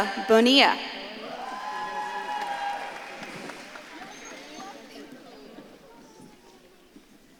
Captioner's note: audience claps and cheers